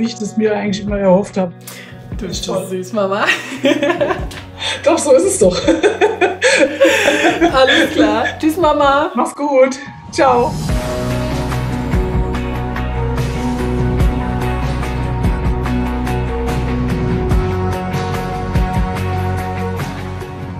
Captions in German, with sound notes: so wie ich mir das immer erhofft hab. (lachend:) Du bist so süß, Mama. Doch, so ist es doch. Alles klar. Tschüss, Mama! Mach's gut. Ciao! (Dynamische Musik)